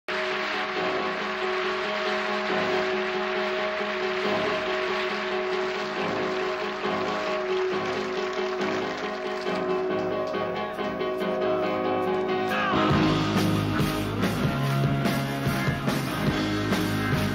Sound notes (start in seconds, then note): 0.0 crowd clapping; 14.1 rhythmic rock music